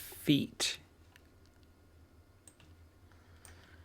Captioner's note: silence